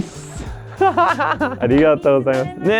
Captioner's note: speaks Japanese; laughs; speaks Japanese; stallkeeper speaks Japanese